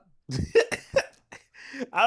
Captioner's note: laughing